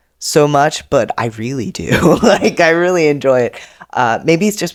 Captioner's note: laughs